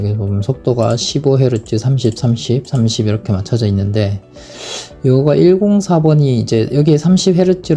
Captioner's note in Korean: 콧방귀